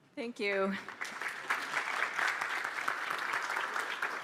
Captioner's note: applause